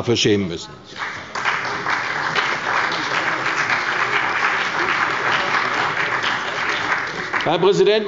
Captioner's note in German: Beifall bei der CDU und dem BÜNDNIS 90/DIE GRÜNEN